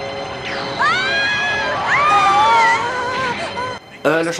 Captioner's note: shoutings continue